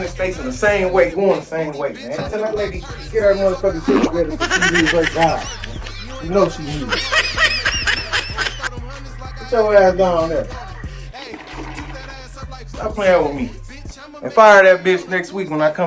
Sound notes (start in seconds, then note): 5.7 face laughing; 8.3 face laughing; 11.0 toilet gurgles